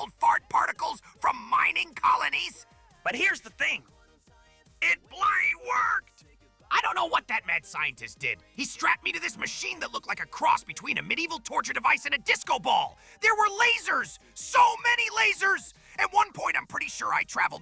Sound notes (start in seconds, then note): 6.1 increasingly manic